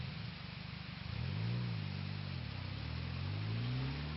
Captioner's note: engine revving